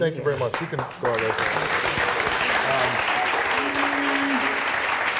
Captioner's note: audience clapping